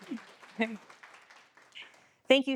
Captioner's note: applause